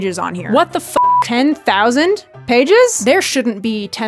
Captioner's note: beep